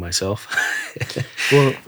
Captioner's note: laughing